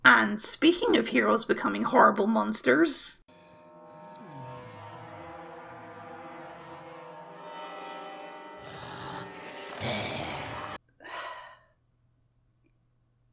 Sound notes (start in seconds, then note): 3.4 spooky Zombie Noises; 11.0 deep Sigh